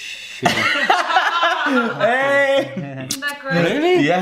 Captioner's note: laughter